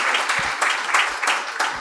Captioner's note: applause